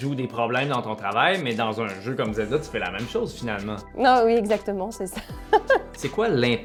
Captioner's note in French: rires